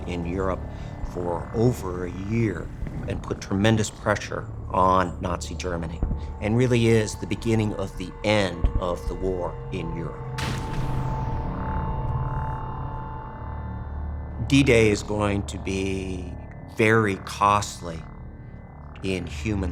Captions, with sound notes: in Europe for over a year and put tremendous pressure on Nazi, Germany. And really is the beginning of the end of the war in Europe. (gunshot fires) D-Day is going to be very costly in human lives